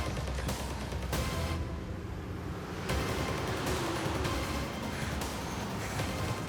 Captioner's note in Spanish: ruido de un vehículo